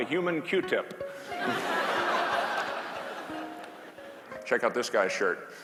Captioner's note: class laughing